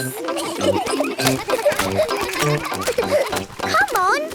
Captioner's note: kids giggling